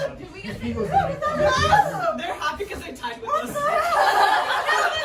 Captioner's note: laughter